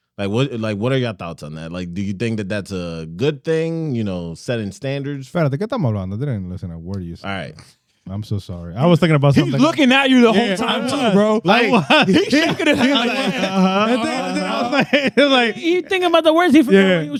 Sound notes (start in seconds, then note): 5.6 speaking In Foreign Language; 12.1 laughing